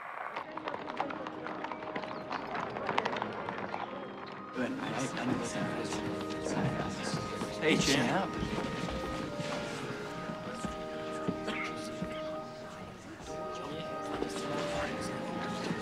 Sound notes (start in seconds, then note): 4.4 indistinct chatter